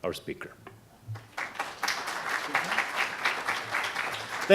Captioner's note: audience clapping